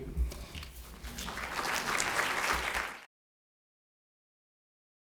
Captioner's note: applause